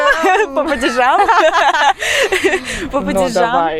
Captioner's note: Laughing in Interslavic